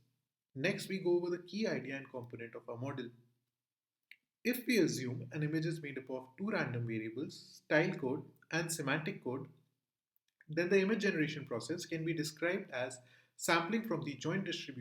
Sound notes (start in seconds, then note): 8.1 click